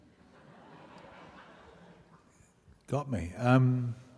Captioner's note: laughing